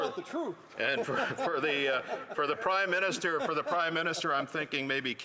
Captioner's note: some Laughter